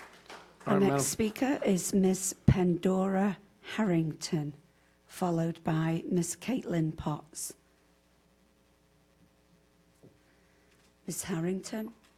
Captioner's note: applause